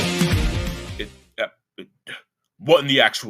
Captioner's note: Christopher stutters